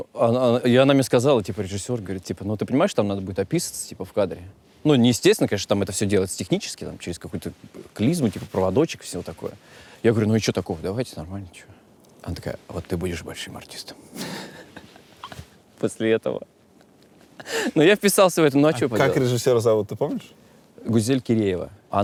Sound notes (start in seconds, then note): 12.4 dramatically; 14.1 laughs